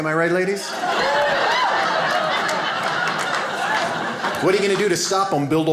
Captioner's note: audience applauding